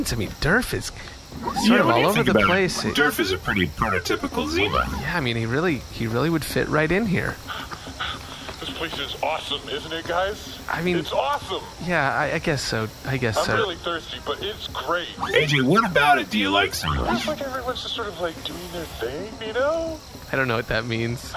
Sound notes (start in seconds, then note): 6.9 running up, out of breath